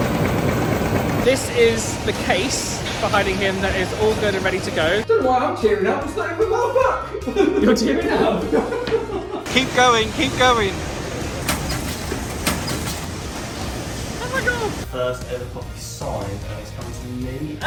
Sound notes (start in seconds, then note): 0.0 machine rumbling; 7.1 laughs; 11.1 machine rattling